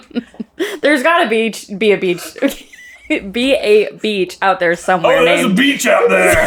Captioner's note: laughing